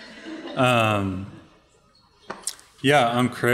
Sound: audience laughing

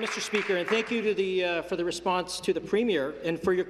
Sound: applause

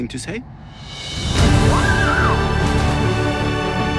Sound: screams

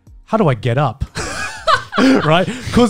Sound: laughing

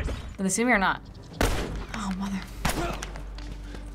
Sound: gunshots

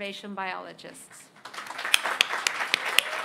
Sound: applause

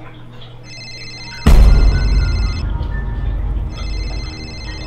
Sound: phone ringing

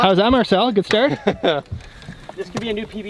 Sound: laughs

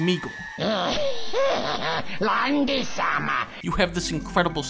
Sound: laugh

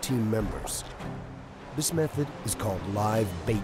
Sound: voiceover

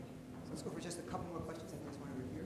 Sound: male Voice

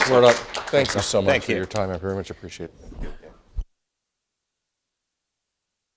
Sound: applause

